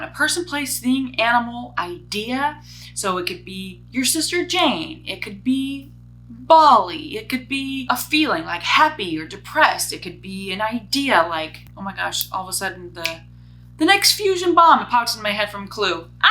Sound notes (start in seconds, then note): 13.0 snaps fingers